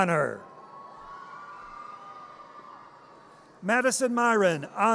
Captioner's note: audience cheers